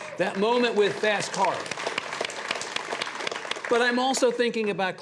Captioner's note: audience applauds